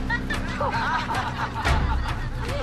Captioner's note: laughter